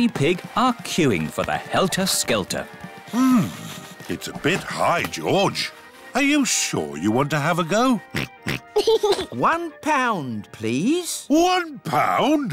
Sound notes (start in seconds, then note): 8.1 oinks and giggles